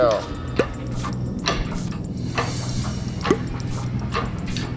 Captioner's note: machine clanking